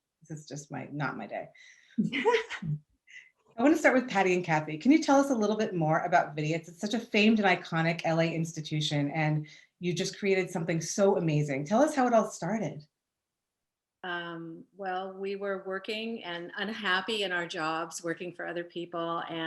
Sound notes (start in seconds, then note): 2.0 laughs